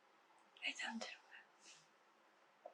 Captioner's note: whispering